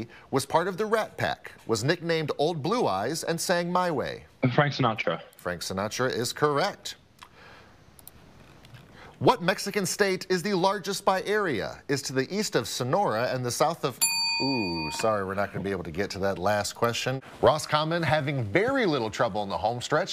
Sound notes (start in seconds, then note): 14.0 bell dings